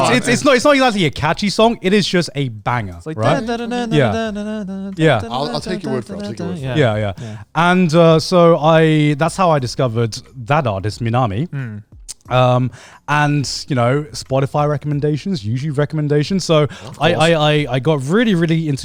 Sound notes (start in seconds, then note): 4.6 burping